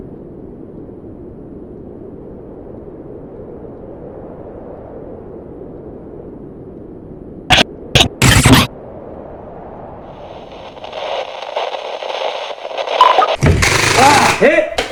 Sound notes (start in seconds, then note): 7.8 glitching; 10.2 radio static